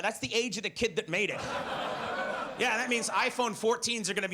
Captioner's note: audience laughs